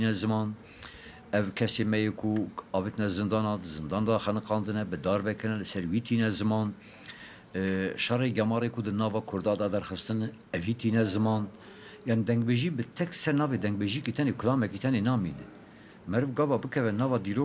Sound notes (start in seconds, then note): 2.6 Speaker continues in Kurdish